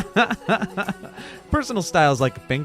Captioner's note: laughing